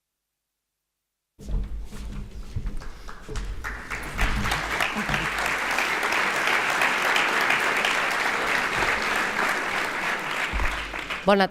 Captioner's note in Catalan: aplaudiments